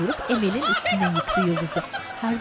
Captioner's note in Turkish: Gülme sesi